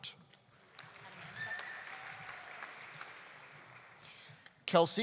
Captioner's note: audience applauding